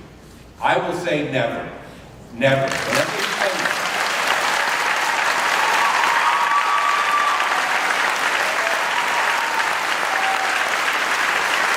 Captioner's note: clapping and cheering